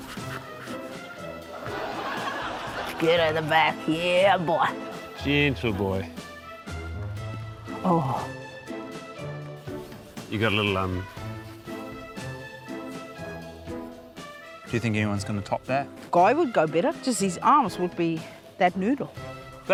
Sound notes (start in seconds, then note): 1.5 laughter